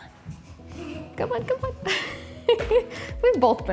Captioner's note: child giggles